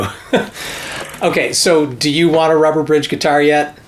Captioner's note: laughs